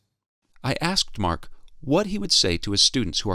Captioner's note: voiceover